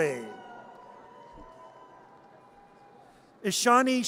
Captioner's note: audience cheers